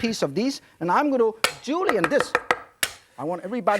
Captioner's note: knife cutting on board